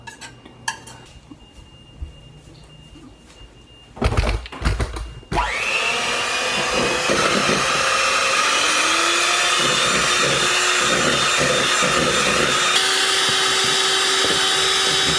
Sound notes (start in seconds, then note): 3.8 whir of electric mixer